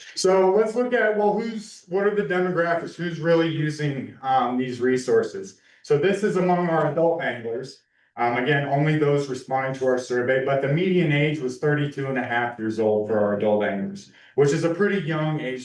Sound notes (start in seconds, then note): none